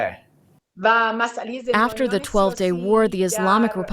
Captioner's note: through translator